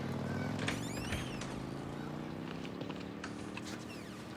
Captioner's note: door creaking